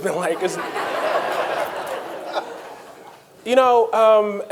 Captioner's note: audience laughing